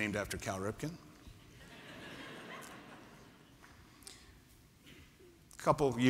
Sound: laughter

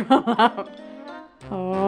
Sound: laughs

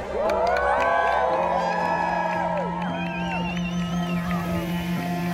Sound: crowd cheers and applauds

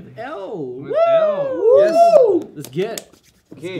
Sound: cheering

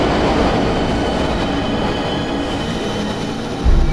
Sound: train brakes

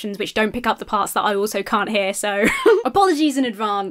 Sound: laughs

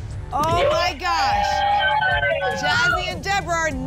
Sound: applause and cheering

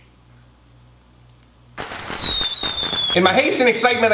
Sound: fireworks exploding

